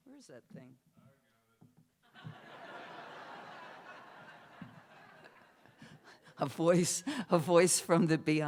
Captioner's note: laughter